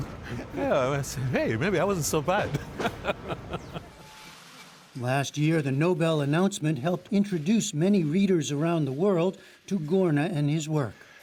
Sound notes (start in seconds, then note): 2.4 laughter